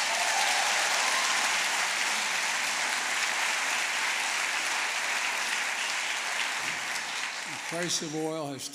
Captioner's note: applause